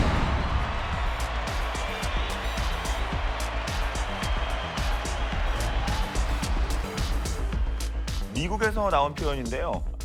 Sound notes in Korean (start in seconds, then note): 0.8 환호성